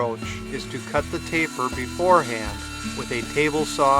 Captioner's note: machine whining